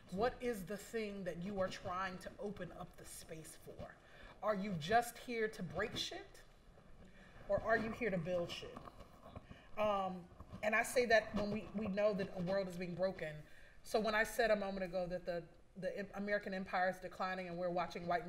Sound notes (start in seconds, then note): none